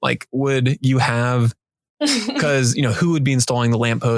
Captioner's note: laughing